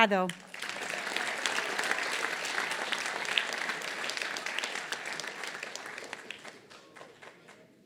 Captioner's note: applause